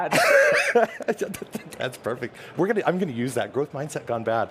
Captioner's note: laughter